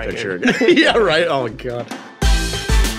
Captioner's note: laughing